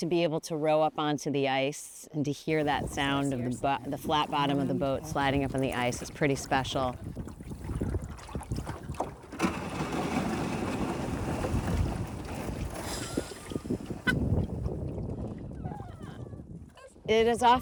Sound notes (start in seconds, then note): 7.3 water rippling; 9.0 bottom of boat scraping ice; 13.2 laughing